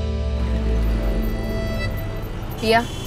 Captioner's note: Traffic sound